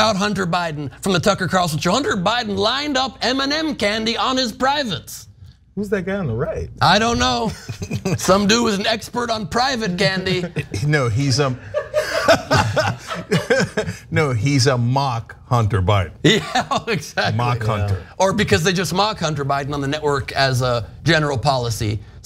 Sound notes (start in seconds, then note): 9.7 laugh